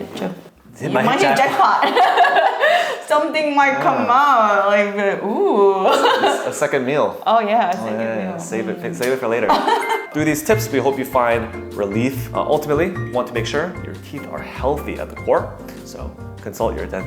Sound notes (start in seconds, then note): 1.1 laughs; 9.5 laughs